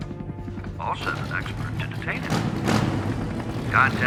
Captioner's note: motorcycle revs up